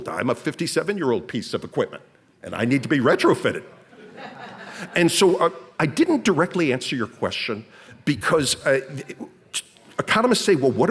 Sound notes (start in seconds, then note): 3.9 audience laughs